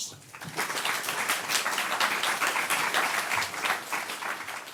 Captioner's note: audience clapping